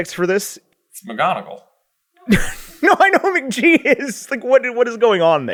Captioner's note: laughing